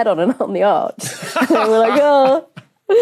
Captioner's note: laughs